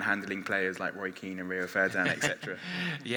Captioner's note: laughs